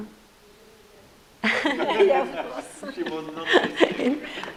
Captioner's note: group laughs